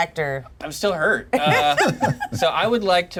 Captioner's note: laughs